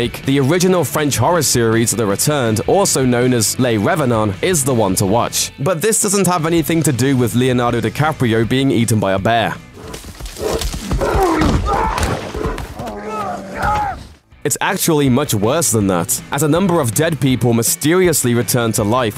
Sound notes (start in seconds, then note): 11.8 mauling noises